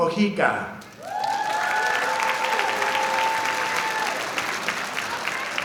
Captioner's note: audience applauding